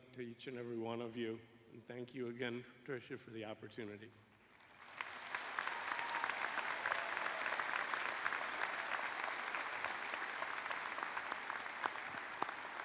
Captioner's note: cheers and applause